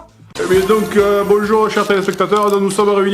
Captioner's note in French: voix commentateur